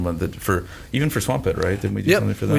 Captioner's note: mutters